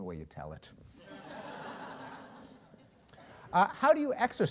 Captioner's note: laughter